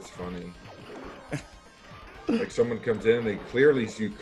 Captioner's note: laugh